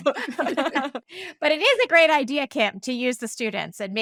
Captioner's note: laughing